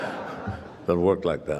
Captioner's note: laughter